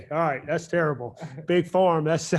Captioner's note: chuckles